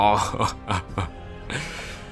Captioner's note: low Level Laughter